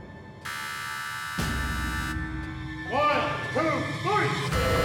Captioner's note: buzzing